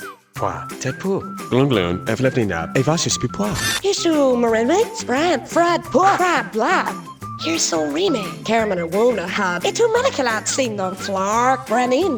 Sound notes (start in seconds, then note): 7.4 speaking in German